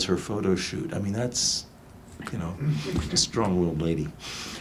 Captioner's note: audience laughs